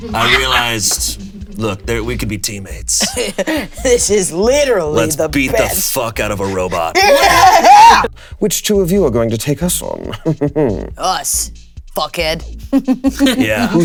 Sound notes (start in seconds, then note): 7.1 players chuckling; 10.0 Damien laughing; 12.7 Delores chuckling